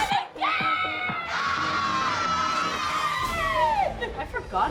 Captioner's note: screaming excitedly